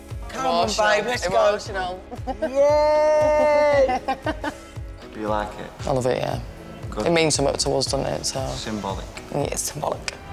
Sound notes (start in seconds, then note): 2.0 laughs